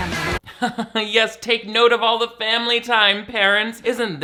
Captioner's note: laughs